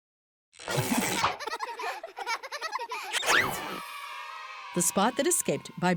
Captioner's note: children laughing